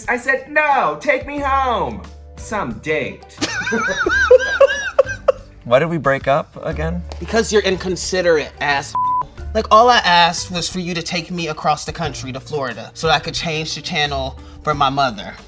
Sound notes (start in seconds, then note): 3.4 laughing; 9.0 beep